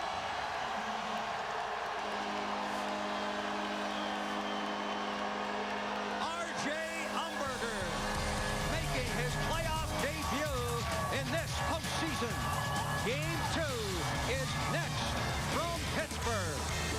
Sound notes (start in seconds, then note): 5.8 cheers and applause; 8.6 horn blaring